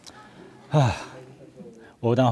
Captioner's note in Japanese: ため息